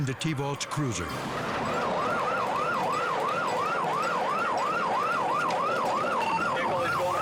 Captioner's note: suspenseful music; sirens wail